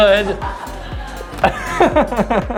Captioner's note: laughing; others laughing